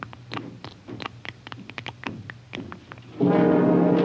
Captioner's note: blood dripping; dramatic music